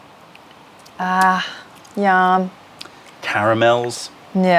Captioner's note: sips tea